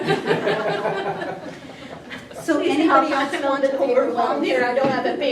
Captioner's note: laughter